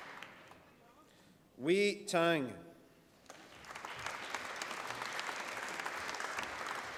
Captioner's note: applause